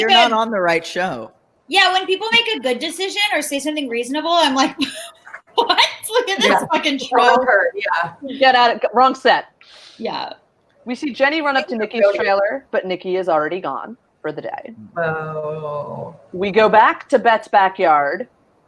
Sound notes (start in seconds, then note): 4.6 laughs